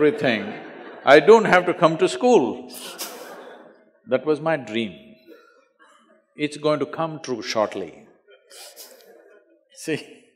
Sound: laughter

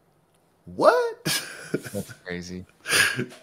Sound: chuckling

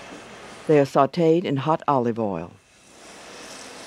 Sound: voiceover

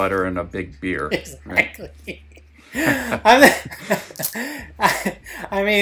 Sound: laughs

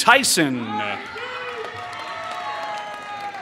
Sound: applause

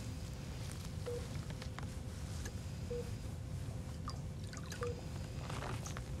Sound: monitor beeping steadily

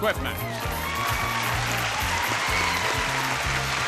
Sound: audience cheers

